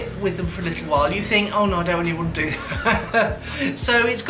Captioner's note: laughs